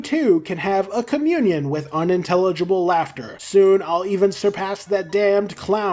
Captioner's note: unintelligble Laughter